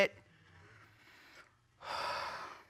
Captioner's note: sighs